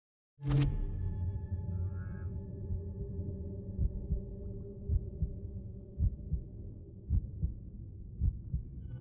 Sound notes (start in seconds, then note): 3.4 heartbeat